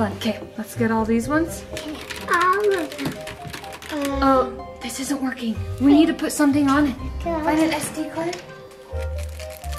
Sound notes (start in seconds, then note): 1.6 keyboard clattering